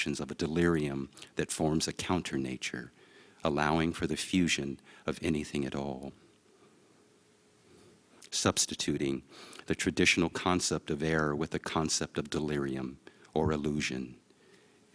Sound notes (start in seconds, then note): none